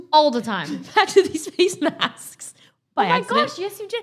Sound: laughs

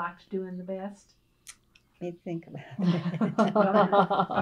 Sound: laughter

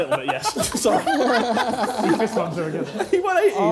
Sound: laughing

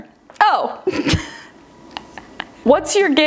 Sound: laughs

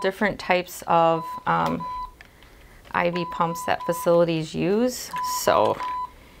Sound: machine beeping; machine beeping

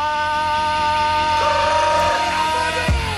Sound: trills tongue

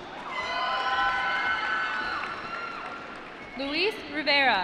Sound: applause

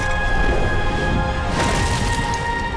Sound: thudding

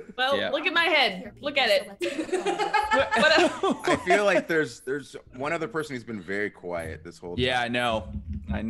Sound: laugh

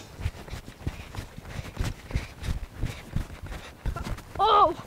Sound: feet thudding

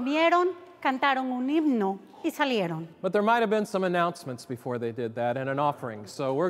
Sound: speaking Spanish

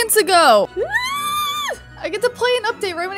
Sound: squealing with delight

